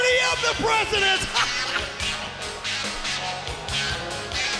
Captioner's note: Eric laughs